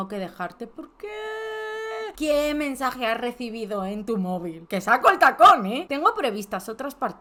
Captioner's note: crying in Spanish 🤧🤧🤧